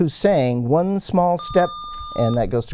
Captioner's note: buzzer